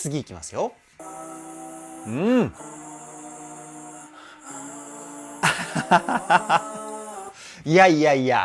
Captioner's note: laughter